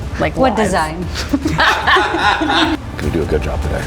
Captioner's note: laughing